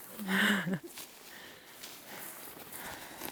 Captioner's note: yasmin chuckling